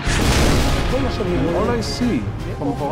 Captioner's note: artillery booming